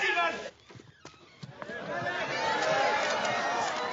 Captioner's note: door creaks; people calling and cameras clicking